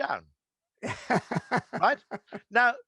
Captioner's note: laughing